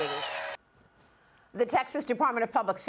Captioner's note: cheers and applause